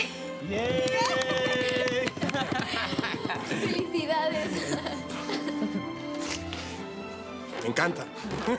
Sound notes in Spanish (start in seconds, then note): 0.6 Aplausos; 1.0 Exclamaciones